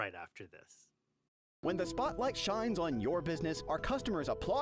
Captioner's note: voiceover